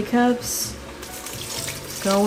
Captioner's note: pouring in water